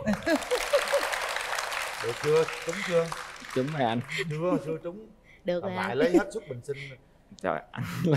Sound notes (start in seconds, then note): 0.0 applause